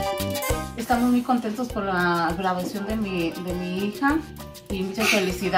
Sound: mom speaks in foreign language

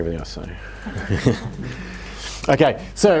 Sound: laughter

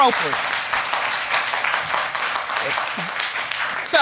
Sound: applause

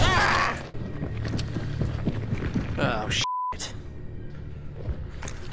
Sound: footsteps coming from above

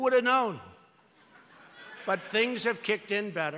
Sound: laughter

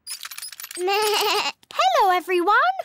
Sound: bleats

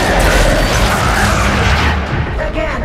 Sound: growling

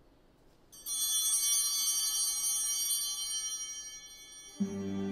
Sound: chimes ringing

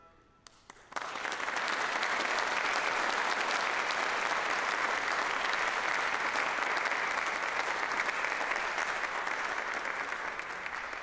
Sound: applause

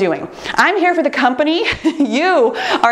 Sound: laughs

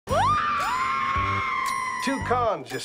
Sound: screaming

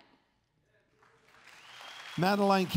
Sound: crowd cheers and applauds

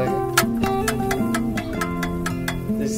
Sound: clicking

